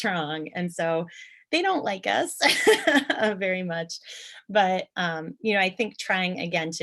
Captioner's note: chuckle